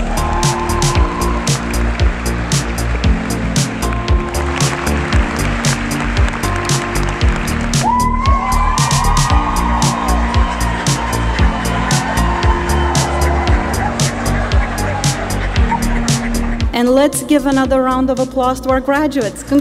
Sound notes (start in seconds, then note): 0.2 audience applauding; 8.2 audience cheering